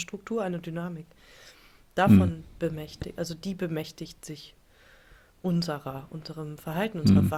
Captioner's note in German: räuspern